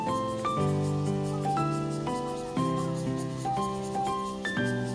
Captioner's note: sound of cicadas chirping